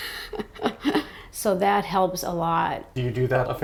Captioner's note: laughter